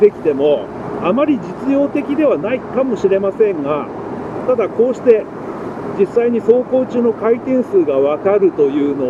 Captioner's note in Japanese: エンジン